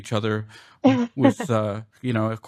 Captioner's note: laughter